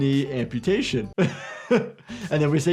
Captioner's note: chuckles